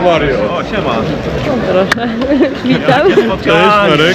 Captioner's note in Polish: śmiech